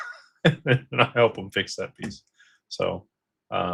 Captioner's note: laughter